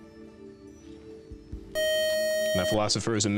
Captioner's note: beep